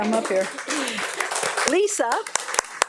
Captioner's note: audience applauding